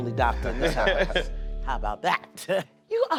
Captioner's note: laughter